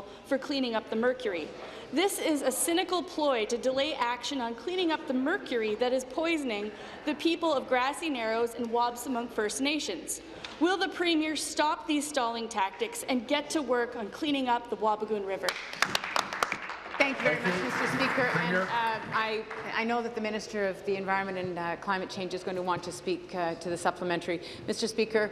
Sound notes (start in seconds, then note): 19.8 applause